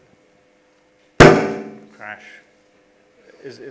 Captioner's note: crash